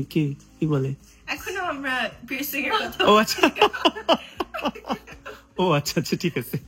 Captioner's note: loud laughter